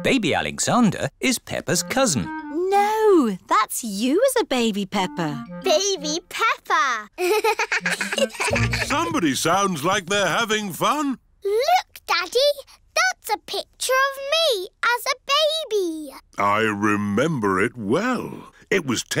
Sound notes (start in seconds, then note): 7.2 both laugh